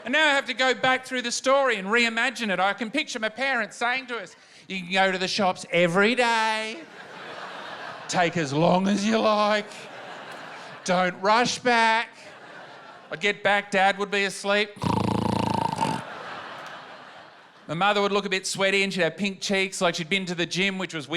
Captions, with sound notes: Now I have to go back through the story and reimagine it. I can picture my parents saying to us, "You can go to the shops every day." (LAUGHTER) "Take as long as you like. Don't rush back." I'd get back, Dad would be asleep. (SNORES). My mother would look a bit sweaty and she'd have pink cheeks like she'd been to the gym,